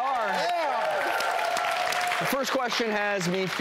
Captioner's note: audience applauding